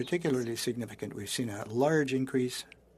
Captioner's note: speaking French